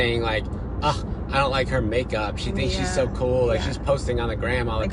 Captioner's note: scoffs